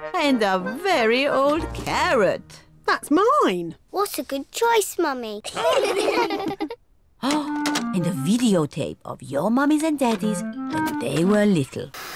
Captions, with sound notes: And a very old carrot. -That's mine! -What a good choice, Mummy. (ALL LAUGH) Oh! And a videotape of your mummies and daddies when they were little.